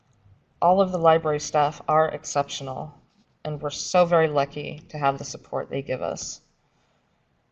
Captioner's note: papers shuffling